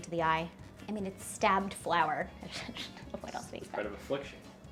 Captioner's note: chuckles